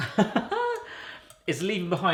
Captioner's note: laugh